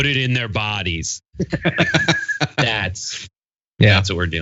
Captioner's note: laugh